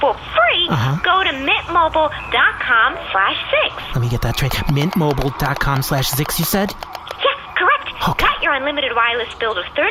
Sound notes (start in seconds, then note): 4.0 typing